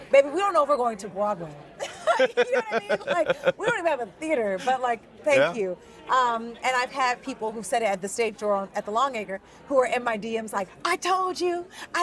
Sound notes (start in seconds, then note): 1.8 both laughing